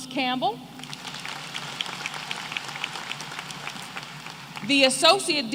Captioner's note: applause